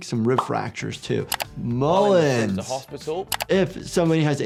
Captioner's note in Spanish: clics del ratón